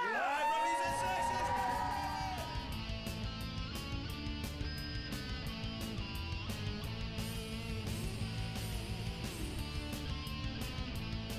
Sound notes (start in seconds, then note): 0.0 audience cheering; 2.3 upbeat rock music; 5.7 upbeat rock music